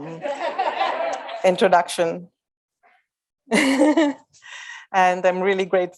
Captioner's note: audience laughs; chuckles